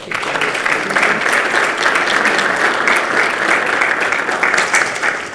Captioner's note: participants clap